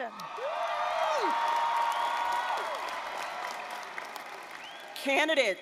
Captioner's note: applause, cheering